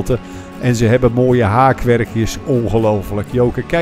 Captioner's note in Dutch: Voiceover